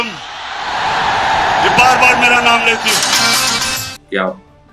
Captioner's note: crowd cheering